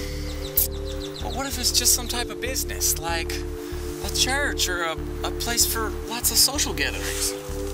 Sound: sighs

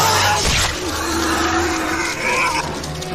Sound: centipede squeals

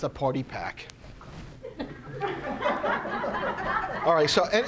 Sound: audience laughing

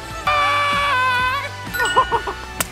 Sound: man screams; ding

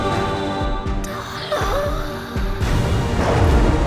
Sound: whispers

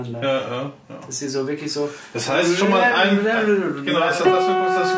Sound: imitates sax

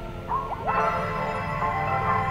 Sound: clock ringging

